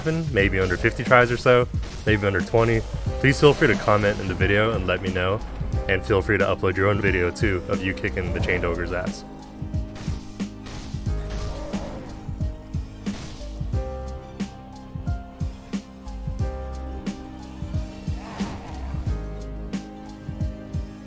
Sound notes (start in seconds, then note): 9.9 weapon zapping; 10.3 bright music; 11.2 ogre grunting; 13.0 weapon zapping; 14.3 dramatic music; 18.2 ogre yells